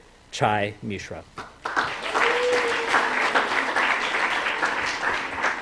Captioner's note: applause